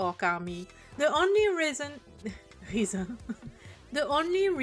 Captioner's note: laughter